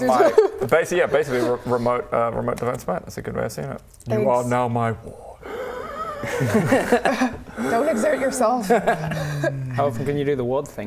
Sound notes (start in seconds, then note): 5.4 rasps